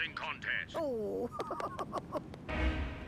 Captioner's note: giggling